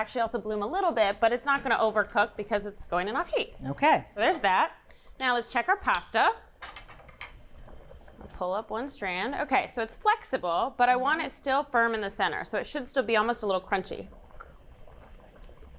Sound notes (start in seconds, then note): none